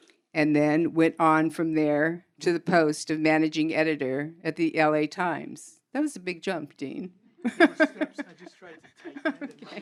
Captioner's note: laughs